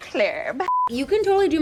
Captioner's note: screen beeps